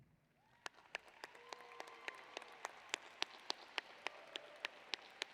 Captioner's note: applause